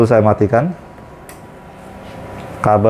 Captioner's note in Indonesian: suara tombol